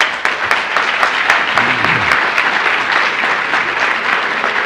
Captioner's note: audience applauds